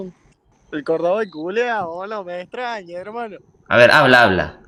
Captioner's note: cordoban accent